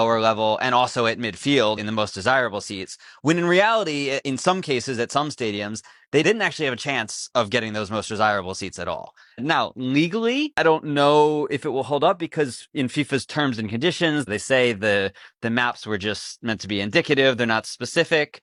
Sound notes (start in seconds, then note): none